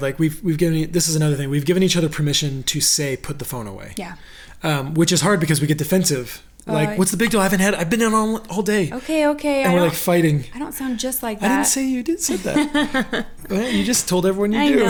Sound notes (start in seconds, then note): 12.0 laughs